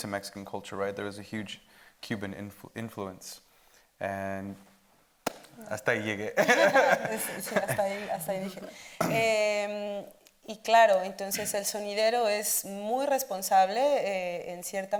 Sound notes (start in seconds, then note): 5.3 speaking Spanish